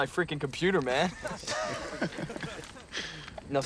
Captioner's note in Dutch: allemaal lachen